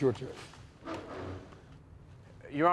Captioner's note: chair scraping